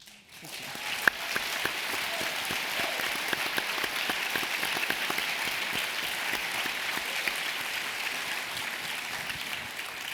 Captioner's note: applause